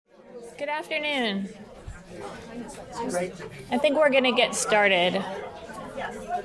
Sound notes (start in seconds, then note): 0.1 audience chattering